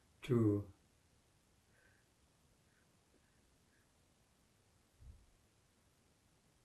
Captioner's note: pauses 8 seconds